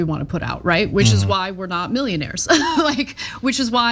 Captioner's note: laugh